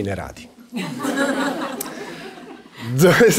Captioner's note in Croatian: smijeh u publici